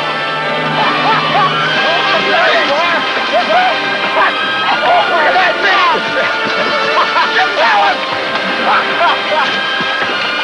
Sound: laughing and inaudible shouting

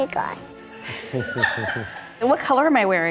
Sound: laughter

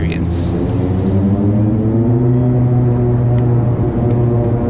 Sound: plane engine roaring

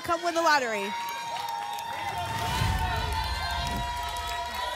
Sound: applause and cheering; whoosh

